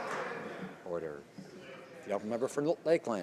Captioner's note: some Applause